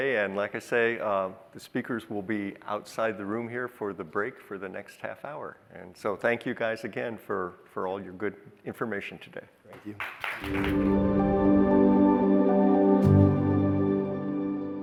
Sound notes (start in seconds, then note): 9.9 audience applauding; 10.4 uplifting music